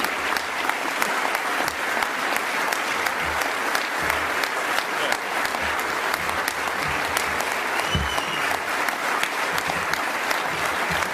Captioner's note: applause continuing